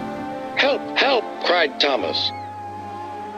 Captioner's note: through a voice box